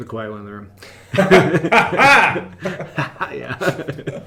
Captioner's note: laughter